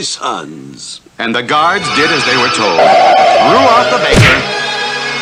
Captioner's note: smack!